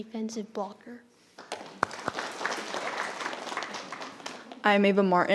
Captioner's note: audience applauding